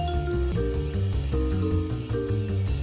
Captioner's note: none